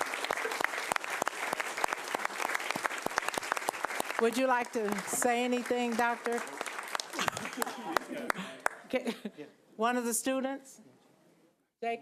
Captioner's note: applause